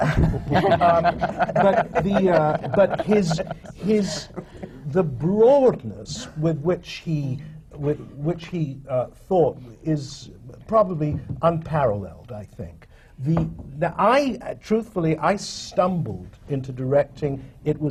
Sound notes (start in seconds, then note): 0.0 laughter